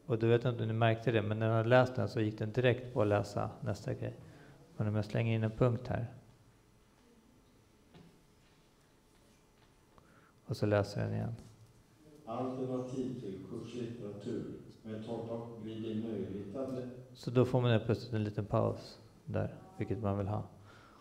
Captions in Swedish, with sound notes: och då gick den direkt på att läsa nästa grej. Men om man slänger in en punkt här... ...och så läser den igen... - (röst som läser text) - Så då får men helt plötsligt en liten paus, vilket man vill ha.